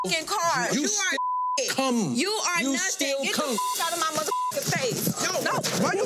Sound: beep; beep

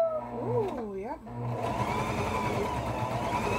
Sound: child coos; whirring

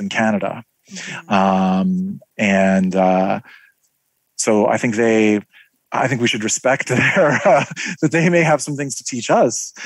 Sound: laugh

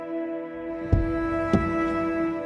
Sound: car door opens

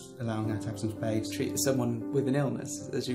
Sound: voiceover

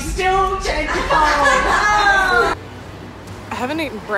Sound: laughing

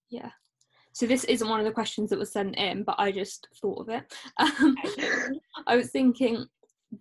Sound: both laugh

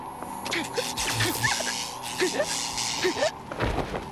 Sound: jewel zaps

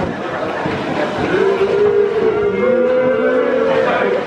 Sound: booing and jeering

